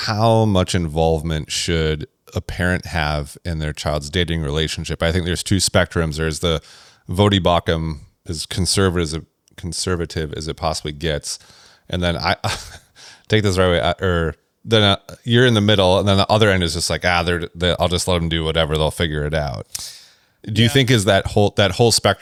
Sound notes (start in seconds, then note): 12.4 laughs